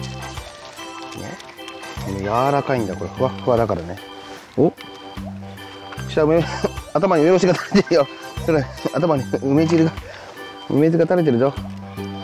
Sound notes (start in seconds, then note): 3.0 laughs